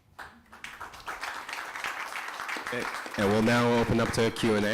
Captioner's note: applause